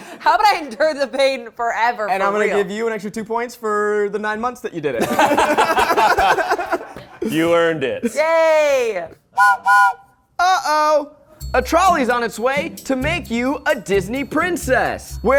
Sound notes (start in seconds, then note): 5.0 all laughing; 9.3 whistle blows